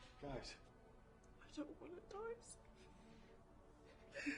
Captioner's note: sobbing